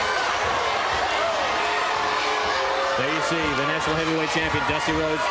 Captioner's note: crowd cheering